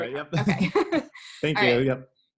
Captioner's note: laughs